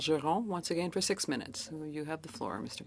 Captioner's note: speaking French